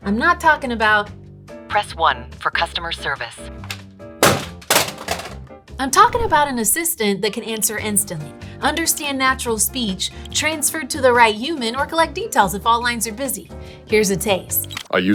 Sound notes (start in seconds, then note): 4.2 phone thumping